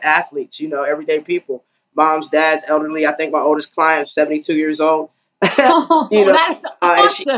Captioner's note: laugh